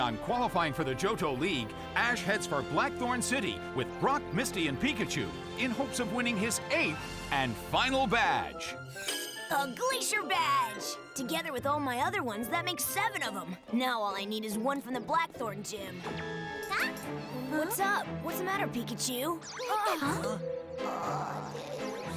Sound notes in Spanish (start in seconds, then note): 15.4 sorprendido; 18.7 preocupado